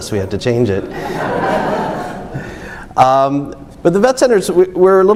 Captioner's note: audience laughs